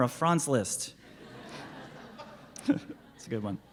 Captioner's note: laughing